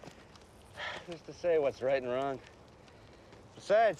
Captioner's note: Bob sighs